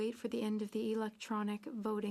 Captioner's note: speaking French